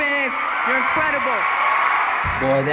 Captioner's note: mixture of cheering and booing